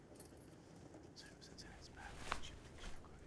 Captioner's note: whispering